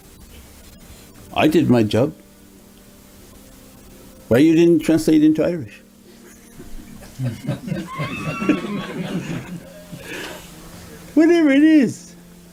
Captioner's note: everyone laughs